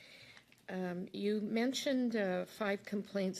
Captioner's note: speaking French